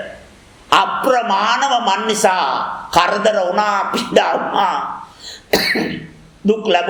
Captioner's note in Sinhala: උගුර කෑරීම